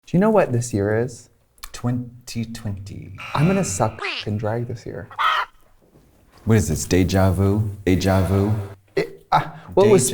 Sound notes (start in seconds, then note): 2.4 alarm buzzing; 5.4 chicken squawking